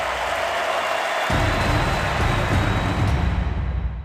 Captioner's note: crowd cheering